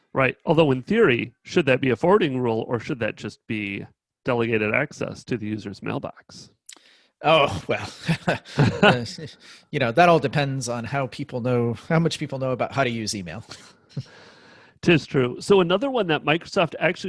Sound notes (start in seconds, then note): 7.6 chuckles